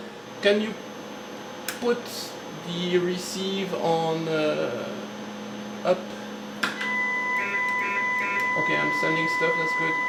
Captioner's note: transmitted data sounds